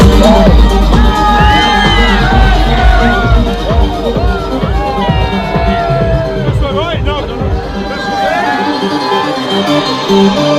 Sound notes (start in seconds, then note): 1.0 crowd cheering